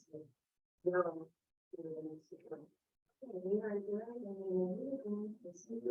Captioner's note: group muffled chattering